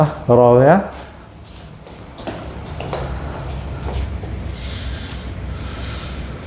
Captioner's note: stepping sound